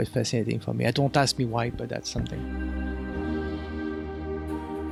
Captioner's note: voiceover